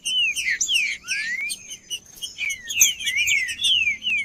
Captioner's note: trinca ferro cantando